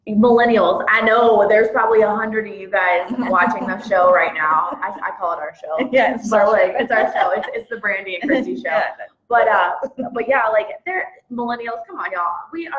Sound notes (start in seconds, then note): 5.7 laughs